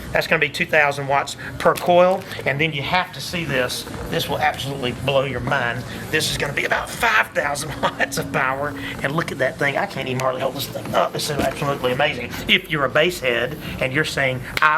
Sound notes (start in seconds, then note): 7.4 laughs